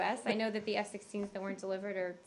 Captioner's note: laughter